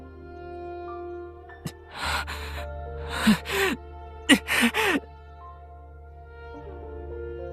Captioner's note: groan